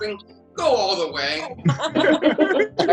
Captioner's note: people laugh